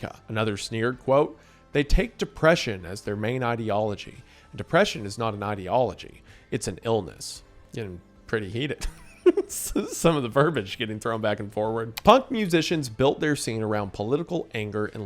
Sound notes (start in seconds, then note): 8.8 laughs